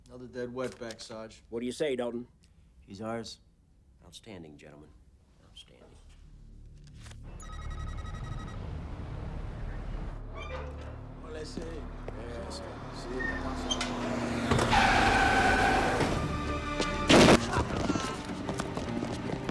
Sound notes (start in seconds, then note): 7.4 text beeping; 10.2 gate creaking; 11.7 people speaking Spanish; 14.0 tires screeching; 14.0 van revving; 16.5 tense music; 17.1 gunfire clattering; 17.5 gangsters screaming